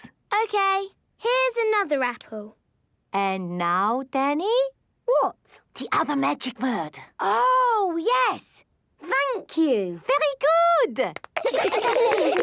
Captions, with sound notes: - Okay. Here's another apple. - And now, Danny...? - What? - (whispering) The other magic word. - Oh, yes... Thank you! - Very good!